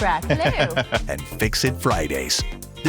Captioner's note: laughs